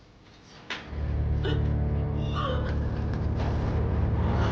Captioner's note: gasping